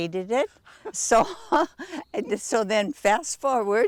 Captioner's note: chuckling